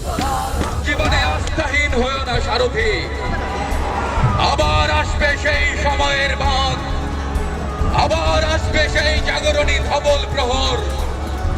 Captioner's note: recitation of poem